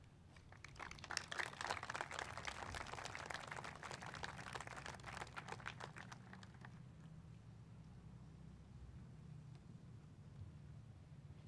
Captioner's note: applause